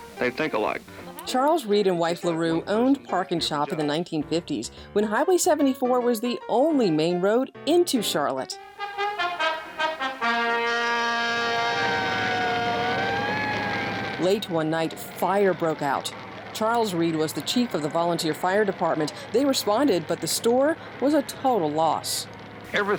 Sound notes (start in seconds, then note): 8.5 upbeat trumpet music; 12.1 sirens ringing